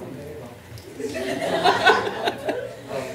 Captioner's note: laughter